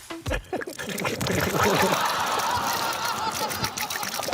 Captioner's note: gurgles